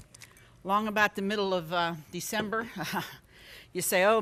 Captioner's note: laughs